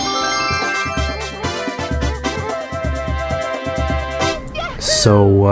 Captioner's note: Shine Sprite collection jingle